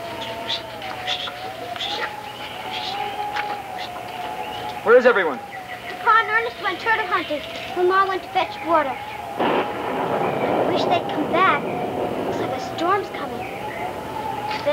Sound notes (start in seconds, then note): 0.2 Samuel chittering; 9.4 thunder cracks